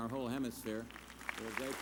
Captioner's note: applause